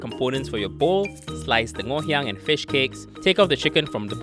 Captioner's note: voiceover